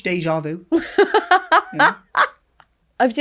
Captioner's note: laughing